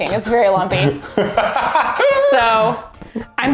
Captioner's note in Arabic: يضحك بصوت عالٍ